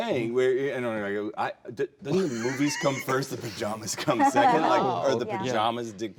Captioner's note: laughing